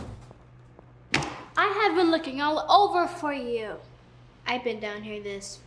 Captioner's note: hands slam on desk